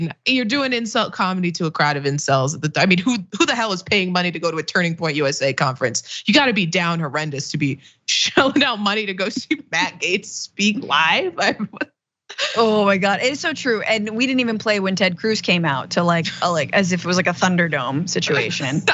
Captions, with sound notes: you're doing insult comedy to a crowd of in cells. I mean, who the hell is paying money to go to a turning point USA conference. You got to be down horrendous to be showing out money to go see Matt Gates speak live [LAUGH]. >> My God, it's so true. And we didn't even play when Ted Cruz came out to like, as if it was a Thunderdome situation.